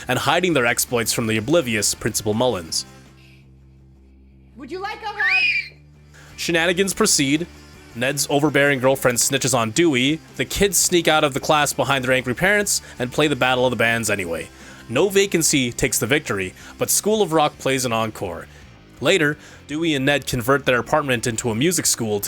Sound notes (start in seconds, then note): 4.7 girl shrieks